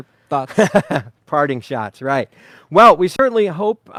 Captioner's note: laughing